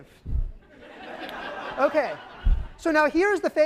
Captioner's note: laughter